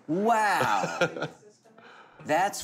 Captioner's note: laughing